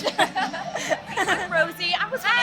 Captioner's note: laughs